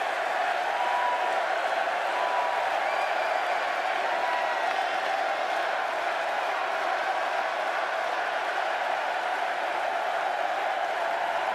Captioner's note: cheers and applause